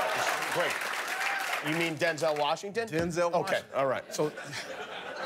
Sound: cheers and applause

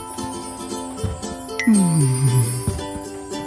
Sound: sighs dreamily

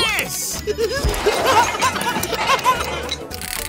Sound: laughing

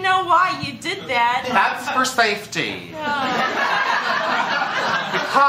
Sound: laughter

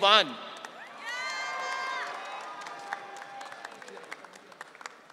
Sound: audience cheering

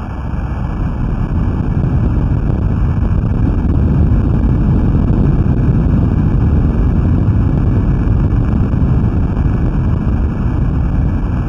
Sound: earthquake sound propagates through the earth's plates

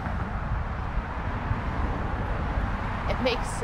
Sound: cars moving

